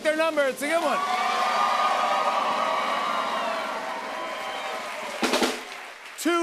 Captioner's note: cheers and applause